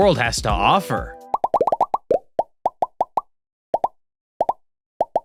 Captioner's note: rapid popping